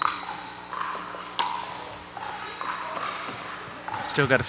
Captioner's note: ball bouncing